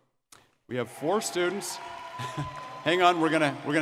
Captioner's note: audience cheering